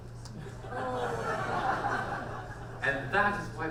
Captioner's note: audience laughs